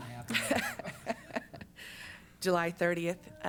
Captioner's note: laughs